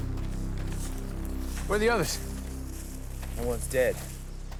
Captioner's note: none